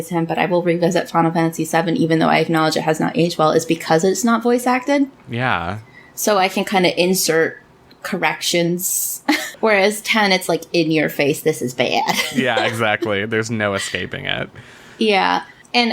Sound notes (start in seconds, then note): 12.0 laughs